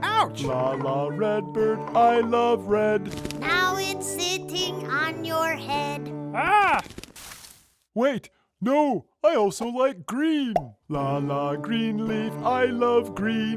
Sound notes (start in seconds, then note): 6.8 bird flutters